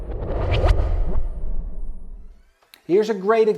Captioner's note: air whooshing